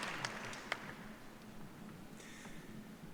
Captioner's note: applause